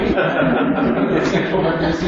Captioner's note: laughter